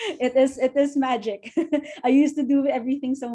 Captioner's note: chuckles